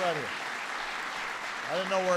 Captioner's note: applause